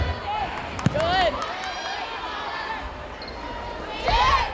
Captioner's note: players yelling